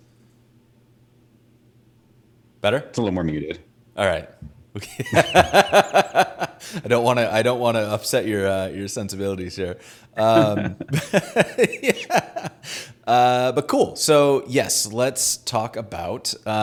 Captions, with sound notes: - Better? - It's a little more muted. - Alright, okay. (laughing) I don't wanna upset your sensibilities here. (both laughing) But cool, so yes, let's talk about